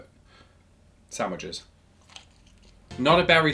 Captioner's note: lettuce crunches